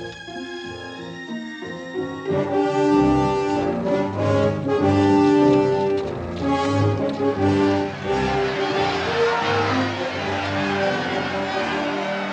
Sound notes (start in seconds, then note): 3.3 dramatic music; 8.9 people cheering